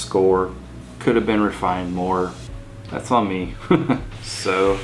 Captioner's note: chuckles